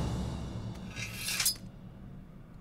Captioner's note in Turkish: Kılıç sesi